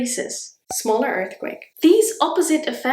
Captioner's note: bubble pops